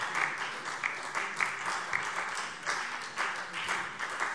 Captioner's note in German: Beifall SPD und vereinzelt DIE LINKE